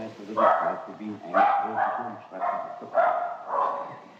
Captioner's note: Peperl Barks